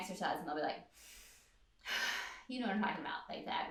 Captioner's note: deep breath